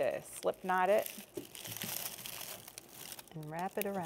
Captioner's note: garlic rustling